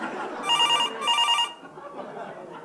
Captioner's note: phone rings